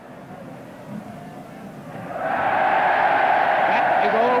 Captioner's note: crowd cheers